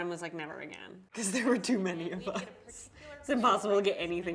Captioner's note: laughing